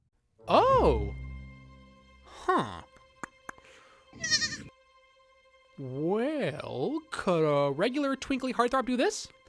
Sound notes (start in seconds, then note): 2.9 clicks tongue; 4.2 bleats